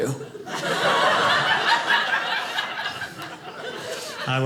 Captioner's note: audience laughing